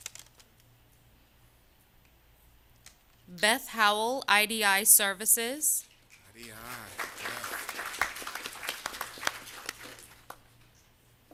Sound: applause

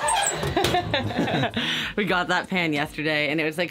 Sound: laughing

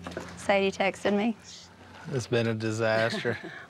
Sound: laughs

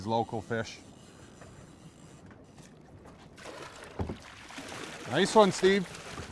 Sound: reel spinning; fish splashing

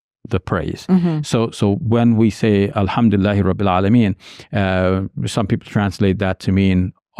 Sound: speaks in Arabic

